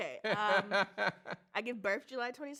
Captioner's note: laughs